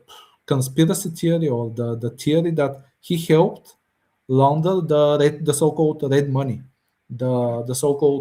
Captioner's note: прочиства гърло